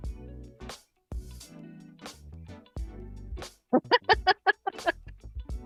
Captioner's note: laughter